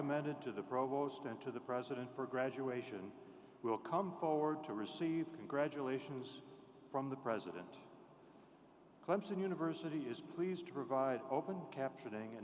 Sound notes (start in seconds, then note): none